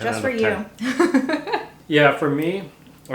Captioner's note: laughs